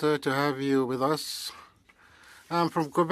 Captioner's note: speaking French